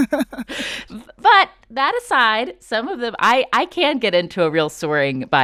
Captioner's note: laughter